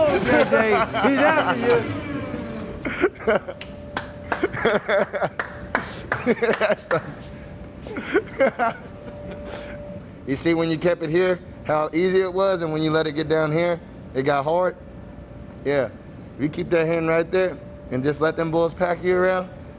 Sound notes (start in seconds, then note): 2.1 laughs; 3.4 man claps; 5.7 laughs